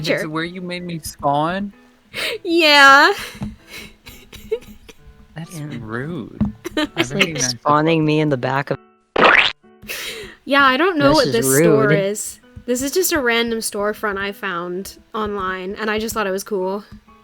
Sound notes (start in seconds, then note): 3.7 giggles; 6.6 giggles evilly; 9.1 cartoon splat sound